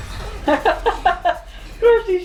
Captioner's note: laughs